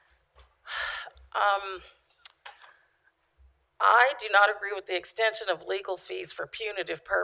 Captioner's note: sigh